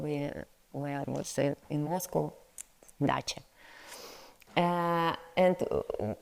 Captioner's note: speaks in foreign language